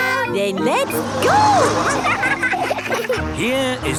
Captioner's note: laughing